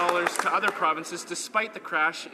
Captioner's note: some Applause